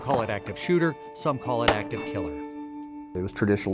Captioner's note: gun fires